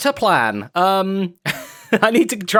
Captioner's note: laughs